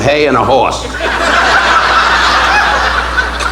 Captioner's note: audience laughing